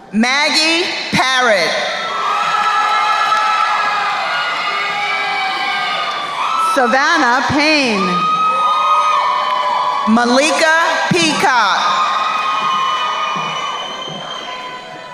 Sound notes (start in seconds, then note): 2.3 crowd cheering; 8.5 crowd cheering; 12.3 crowd cheering